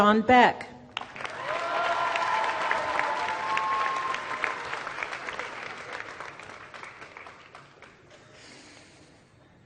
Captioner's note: applause